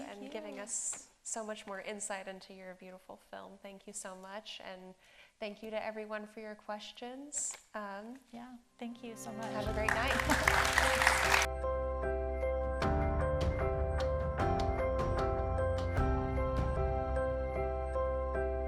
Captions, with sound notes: and giving us so much more insight into your beautiful film. Thank you so much. And thank you to everyone for your questions. Yeah, thank you so much. Have a great night. (audience applauding) (melodious music)